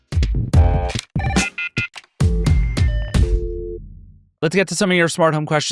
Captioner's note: bright music; phone ringing